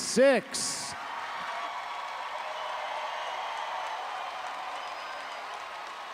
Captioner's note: audience applauding and cheering